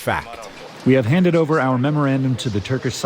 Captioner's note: through translator